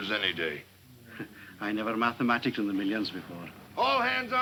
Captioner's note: chuckles